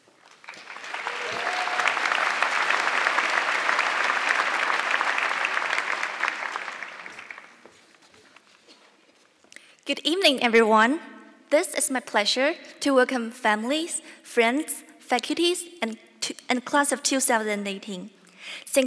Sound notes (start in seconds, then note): 0.0 audience clapping